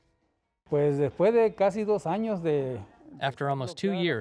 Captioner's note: speaking Spanish